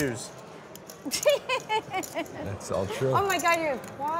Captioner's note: laughing